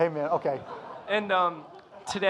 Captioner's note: audience laughing